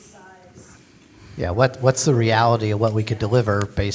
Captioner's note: pat